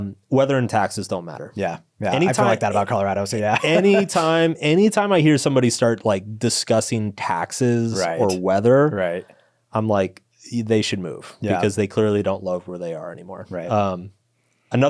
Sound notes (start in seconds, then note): 2.1 laughs